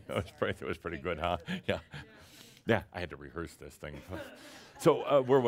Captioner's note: chuckles